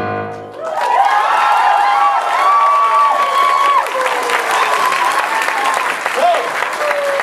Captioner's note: audience applause and cheers